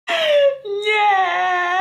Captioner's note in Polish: głęboki wdech